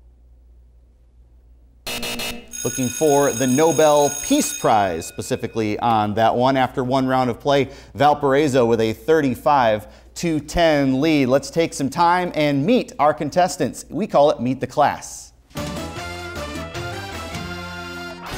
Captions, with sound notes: (buzzer) Looking for the Nobel Peace Prize specifically on that one. After one round of play Valparaiso with a 35 to 10 lead. Lets take some time and meet our contestants. We call it Meet the Class. (upbeat music)